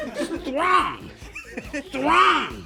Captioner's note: laughs